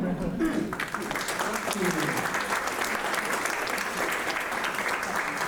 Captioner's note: audience applauding